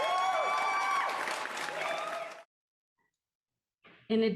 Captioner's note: applause and cheers